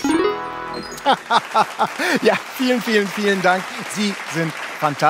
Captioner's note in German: Applaus